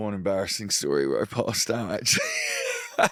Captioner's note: laughs